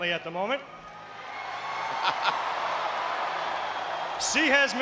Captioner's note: audience cheering